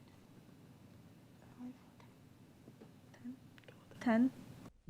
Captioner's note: team members murmur